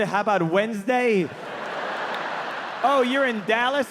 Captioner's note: audience laughing